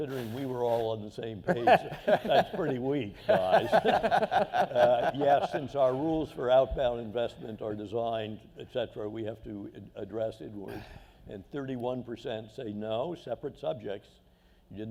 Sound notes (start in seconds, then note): 3.1 laughter